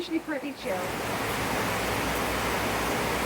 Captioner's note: heavy rain